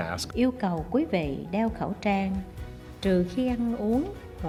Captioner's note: speaking foreign language